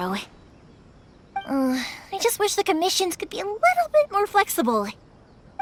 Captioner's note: sigh